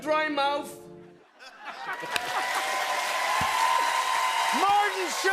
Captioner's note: cheers and applause